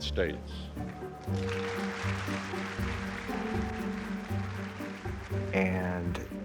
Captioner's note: audience applauds